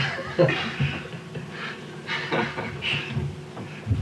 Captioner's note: laughter